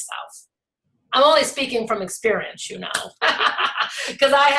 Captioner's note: laughs